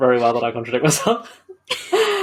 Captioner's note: laughs